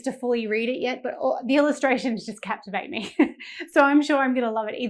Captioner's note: chuckling